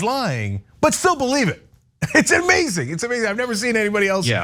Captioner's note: laugh